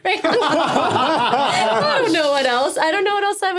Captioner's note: all laughing